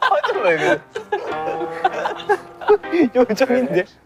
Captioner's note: unable to hold the laughter